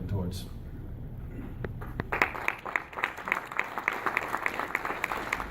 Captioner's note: clapping